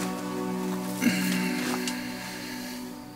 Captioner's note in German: Bewegte Musik; seufzt